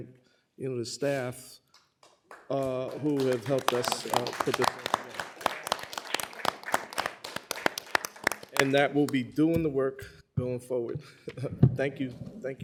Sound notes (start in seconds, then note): 4.1 applause